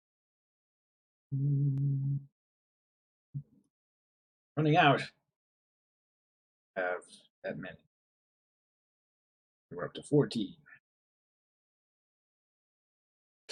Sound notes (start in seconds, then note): 1.3 humming